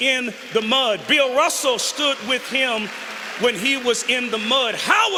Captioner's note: applause